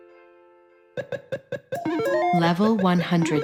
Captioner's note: video game sound effects